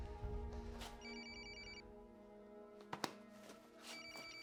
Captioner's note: phone rings